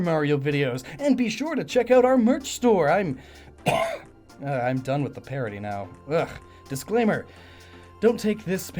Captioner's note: clears throat